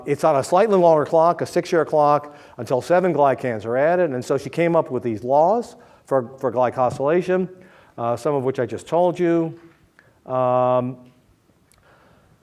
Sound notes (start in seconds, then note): none